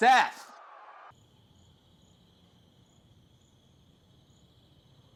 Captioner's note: insects chirping